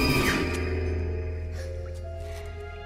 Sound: gasps

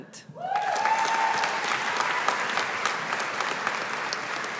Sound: audience applauding

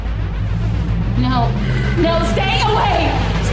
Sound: door pounding from outside; Mark growls

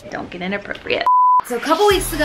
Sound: beep

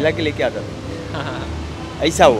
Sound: chuckles

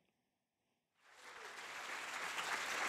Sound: audience applauds

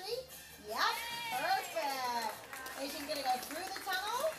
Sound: clapping

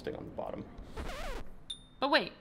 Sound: record scratch

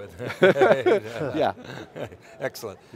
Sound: laughs

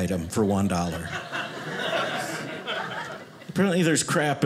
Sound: audience laughing

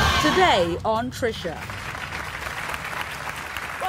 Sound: audience applauding

